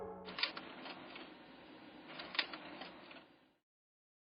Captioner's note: calming music ends; printer clicking